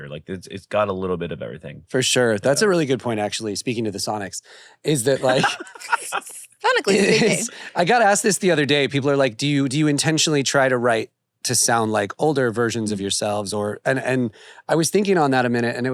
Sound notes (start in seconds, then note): 4.9 laughs